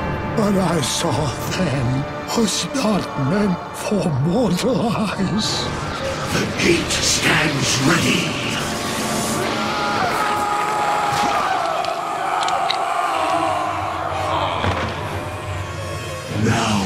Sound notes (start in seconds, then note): 9.5 wanderer/diablo screaming